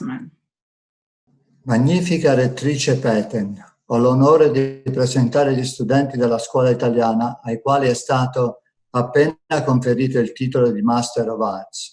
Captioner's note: speaks Italian